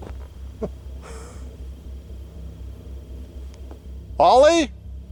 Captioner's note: chuckles